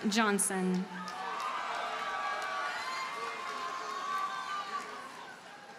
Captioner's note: audience cheers and applauds